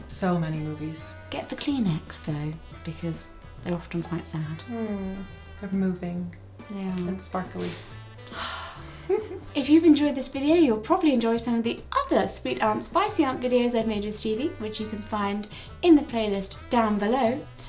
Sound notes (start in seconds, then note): 8.2 sighing; 8.9 giggling